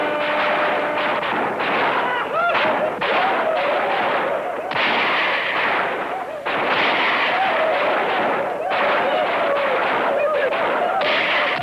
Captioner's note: bugle; gunfire